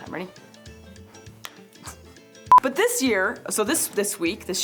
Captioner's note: machine beeping